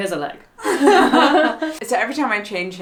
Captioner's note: laughs